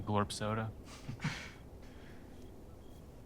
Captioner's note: both chuckle